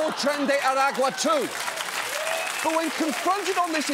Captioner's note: audience cheers, applauds